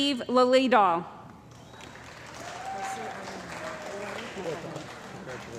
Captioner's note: cheering & Applause